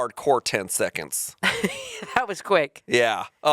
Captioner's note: chuckling